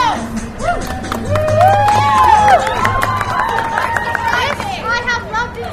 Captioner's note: audience cheers and applause